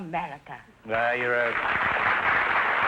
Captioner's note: applause